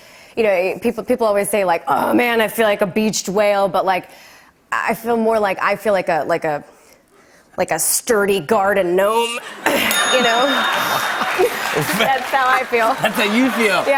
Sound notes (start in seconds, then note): 9.4 laughter; 9.8 ding!